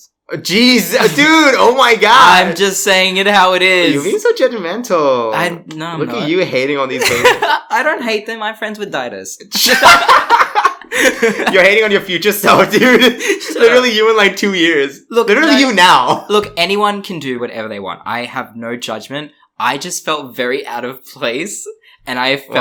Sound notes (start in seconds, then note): 7.0 laughs; 9.6 laughs